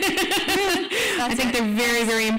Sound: laughs

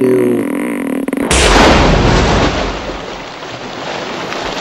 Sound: pop and loud splash

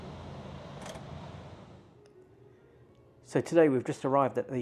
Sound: door clunking

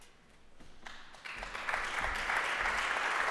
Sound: applause

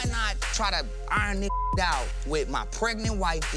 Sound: beep

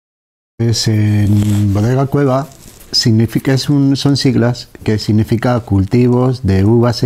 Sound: in Spanish

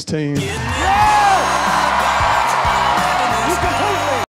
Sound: cheers and applause

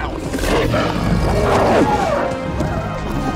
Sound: growling

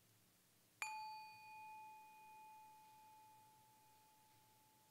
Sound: bell ringing

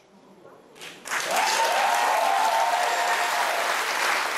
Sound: cheers and applause

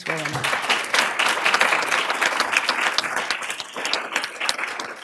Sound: applause

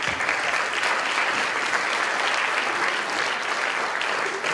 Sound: applause

